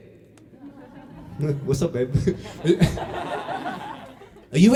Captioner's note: laughter